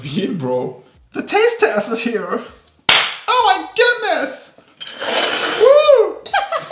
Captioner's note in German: mit amerikanischem Akzent; beide lachen